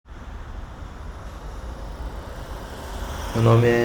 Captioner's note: city noises